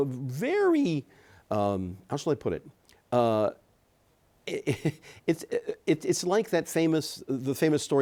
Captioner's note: chuckles